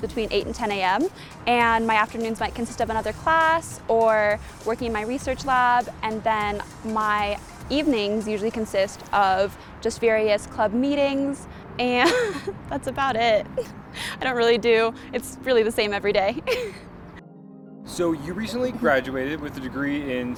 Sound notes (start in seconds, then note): 12.0 laughs